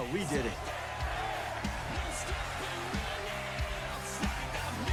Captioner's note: crowd cheering